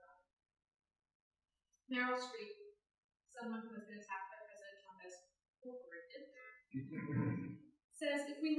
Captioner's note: laughter